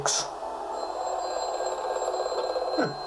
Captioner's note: phone rings